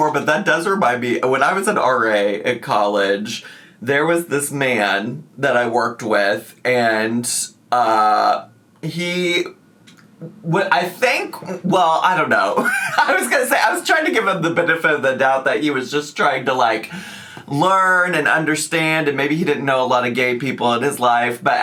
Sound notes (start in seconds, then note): 12.6 laughs